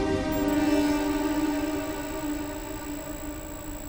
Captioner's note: text beeping